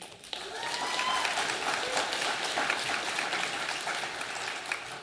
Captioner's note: audience applauding